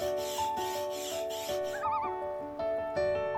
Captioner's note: air pump whooshing; loon calls